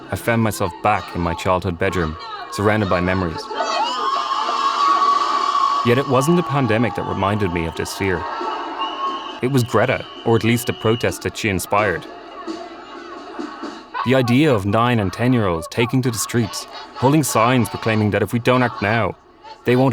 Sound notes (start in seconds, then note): 4.3 protesters on TV yelling